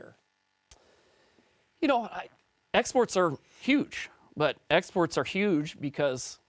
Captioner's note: French